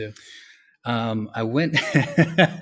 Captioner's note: laughs